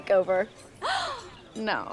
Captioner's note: gasps